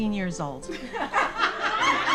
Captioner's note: sister and audience laughing